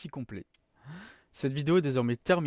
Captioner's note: inhalation